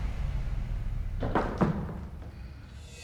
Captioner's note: sugarcanes thud